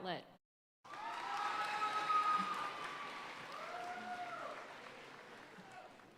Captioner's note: audience cheering and applauding